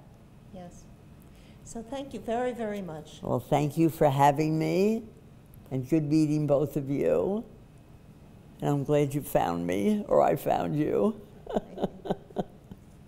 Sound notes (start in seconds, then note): 11.4 laughs